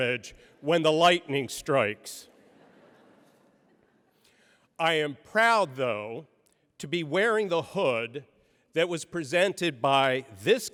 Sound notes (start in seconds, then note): 2.3 laughter